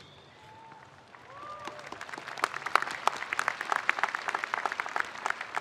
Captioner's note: spectators applauding